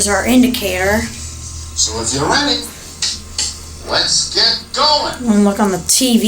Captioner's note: clapping